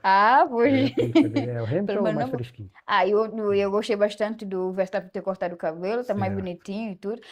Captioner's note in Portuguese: risadas